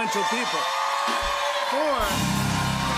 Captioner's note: cheers and applause